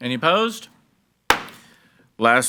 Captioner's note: gavel bangs